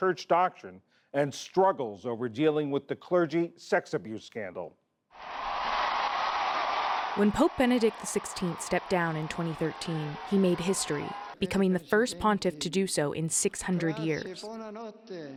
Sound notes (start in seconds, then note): 7.0 voice-over